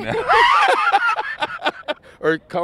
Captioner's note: laughing